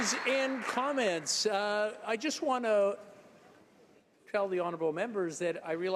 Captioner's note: applause